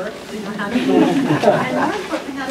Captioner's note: laughter